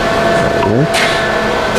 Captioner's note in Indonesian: suara mesin; suara touch screen